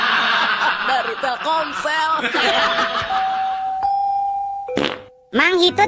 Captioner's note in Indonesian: tertawa